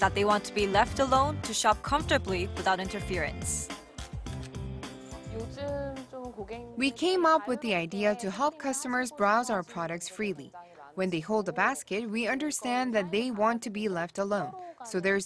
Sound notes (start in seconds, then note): 4.2 Korean